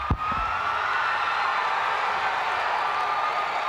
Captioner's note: crowd cheering